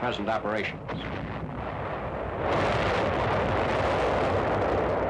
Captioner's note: bombs exploding